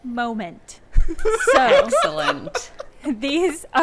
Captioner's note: laughing